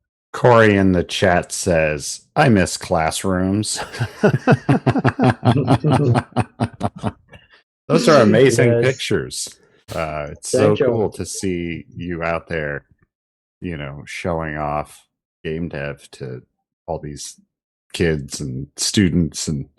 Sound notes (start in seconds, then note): 3.7 laughter